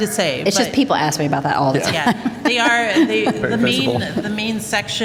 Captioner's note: laughter